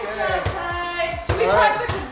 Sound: ball bouncing

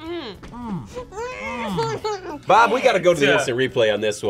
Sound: exclaims

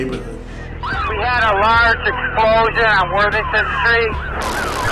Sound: police radio

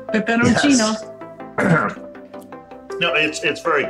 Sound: clears throat

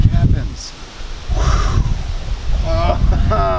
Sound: whooshing

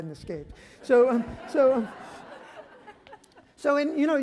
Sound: audience laughter

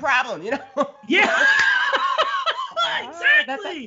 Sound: both laugh

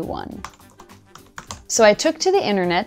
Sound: keyboard clacking

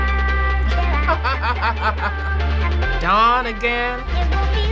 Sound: laughs

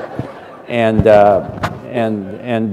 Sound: laughter

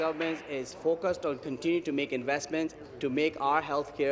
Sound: applause

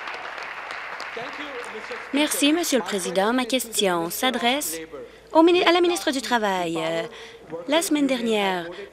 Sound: applause

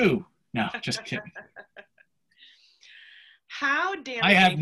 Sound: laughs

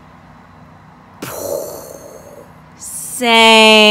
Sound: imitates explosion

